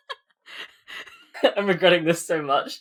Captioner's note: laughing